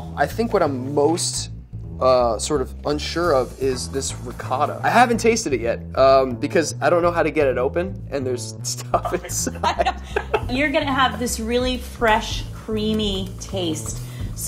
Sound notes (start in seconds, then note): 8.8 both laughing